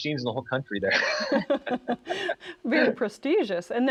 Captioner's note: all laugh